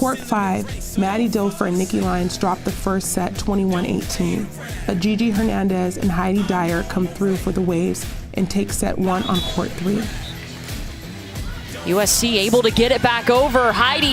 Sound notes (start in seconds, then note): 9.0 whistle blows; 11.9 upbeat music